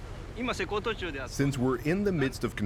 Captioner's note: speaking Japanese